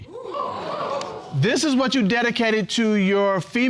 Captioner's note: audience exclaiming